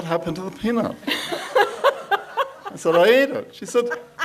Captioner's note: laughs